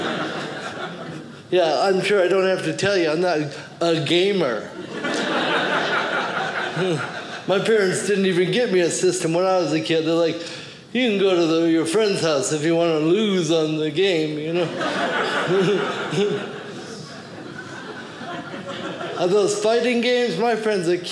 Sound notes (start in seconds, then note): 14.6 audience laughing